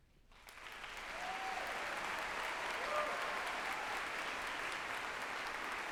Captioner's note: group applauding and cheering